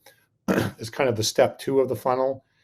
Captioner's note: clears throat